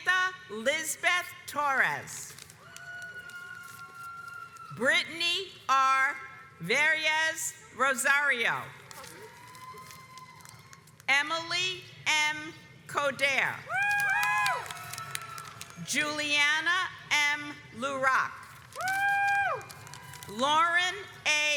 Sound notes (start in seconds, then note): 2.9 audience applauds; 8.9 audience applauds; 13.8 audience cheers; 18.8 audience cheers